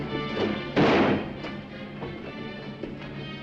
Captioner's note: dramatic music; gun firing; dramatic music